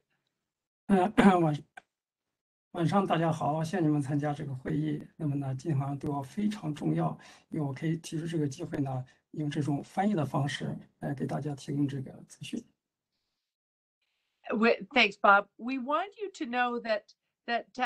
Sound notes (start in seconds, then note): 6.0 speaks in Mandarin